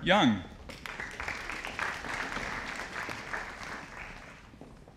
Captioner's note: audience applauding